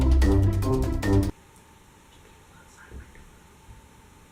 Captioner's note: whispering